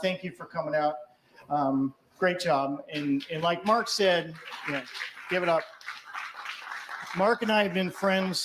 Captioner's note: applause